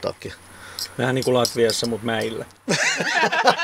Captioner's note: laughter